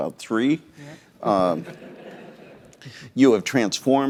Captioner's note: laughter